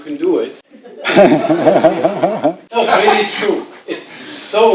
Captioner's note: laughing